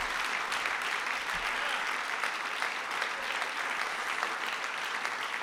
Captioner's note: applause